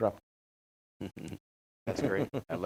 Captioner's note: panelist chuckling